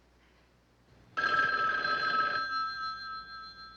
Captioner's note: phone ringing